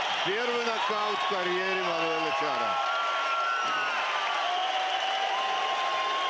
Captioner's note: cheers; cheering